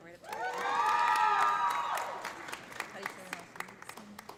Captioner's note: audience cheering; audience applauding